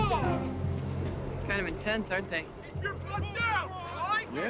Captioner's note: shouting Continues